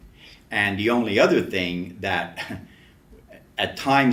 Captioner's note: laughs to self